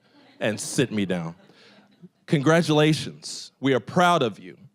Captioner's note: audience chuckling